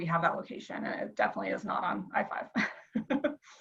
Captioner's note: laughs